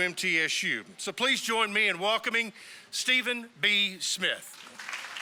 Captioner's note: applause